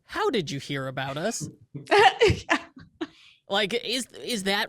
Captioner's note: laughs